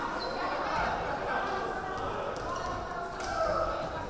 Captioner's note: yelling